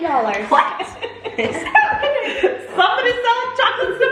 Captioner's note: family laughs